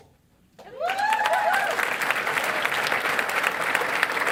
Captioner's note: cheering and applause